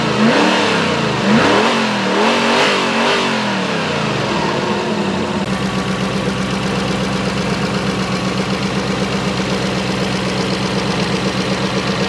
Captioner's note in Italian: V8 FERRARI Sound